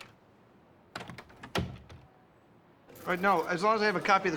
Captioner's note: door closes